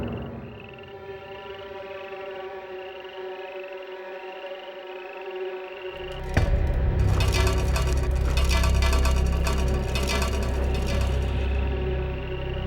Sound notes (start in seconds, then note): 6.0 tin can rattles